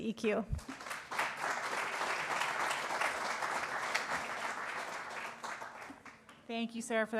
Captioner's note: applause